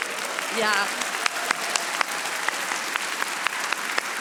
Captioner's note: audience applauding